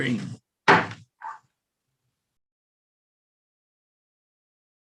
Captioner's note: gavel banging